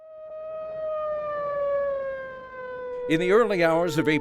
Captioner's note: sirens